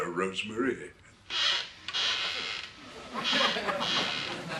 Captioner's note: sound effect of chair squeaking